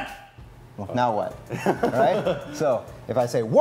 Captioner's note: chuckling